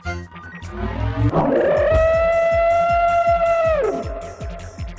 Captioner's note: "scorpion" screams